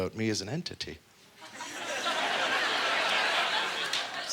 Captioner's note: audience laughter